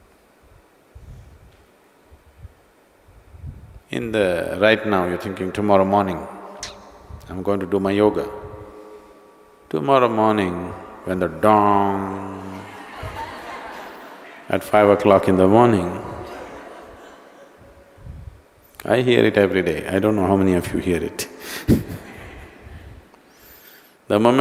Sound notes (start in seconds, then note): 12.6 imitates the gong; 23.2 laughs